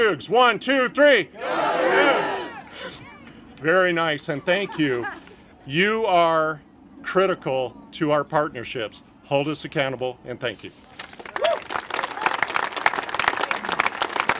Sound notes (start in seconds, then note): 1.8 congregation shouting; 11.0 congregation applaud